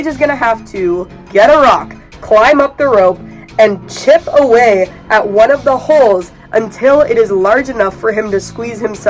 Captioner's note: boo-womp sound; bonking sounds